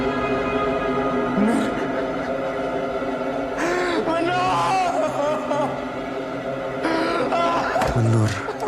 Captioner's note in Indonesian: tertawa